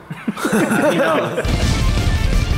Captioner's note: laughter; fast-paced, upbeat music